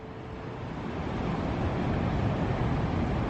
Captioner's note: wind blowing